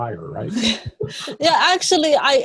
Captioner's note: laughs